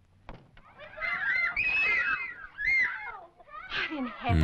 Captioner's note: screaming